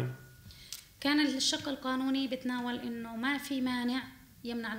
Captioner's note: speaking arabic